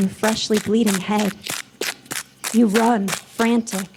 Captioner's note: leaves crunching